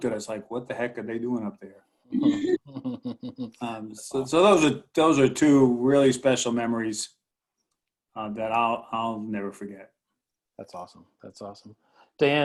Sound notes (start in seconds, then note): 2.2 laughs